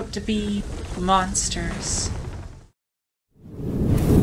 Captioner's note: fire woosh